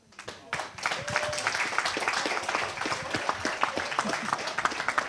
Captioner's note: audience applause